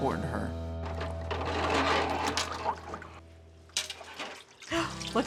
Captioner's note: dishes clattering